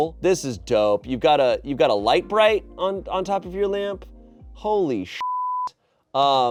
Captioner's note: beep